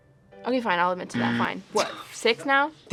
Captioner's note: buzzer rings